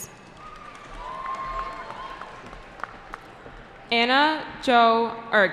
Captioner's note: cheering